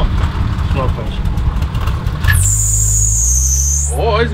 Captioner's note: unstable engine idle speed